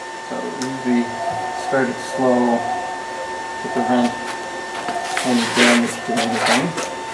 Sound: machine starts

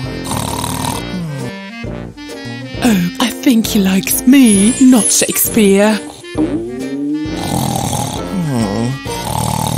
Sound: snoring; still snoring

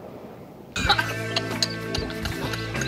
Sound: snickers

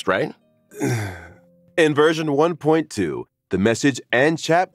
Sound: sigh

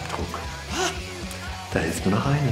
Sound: gasps

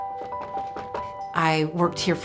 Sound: upbeat music; knocking on door

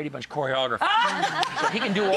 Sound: laughter

